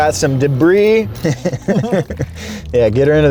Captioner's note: laughing